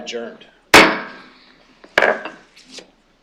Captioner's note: gavel banging